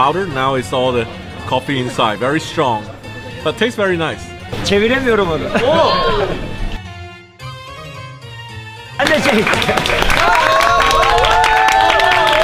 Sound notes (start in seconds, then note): 4.3 speaking foreign language; 9.0 applauding